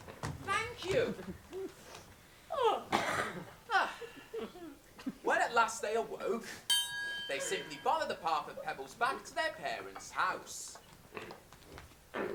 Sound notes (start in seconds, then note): 2.5 yawning; 6.7 ping